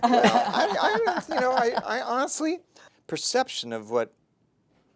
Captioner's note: laughter